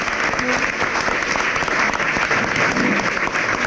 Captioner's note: clapping